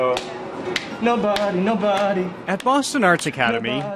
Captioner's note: slaps out rhythm